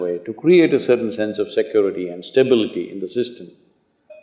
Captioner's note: none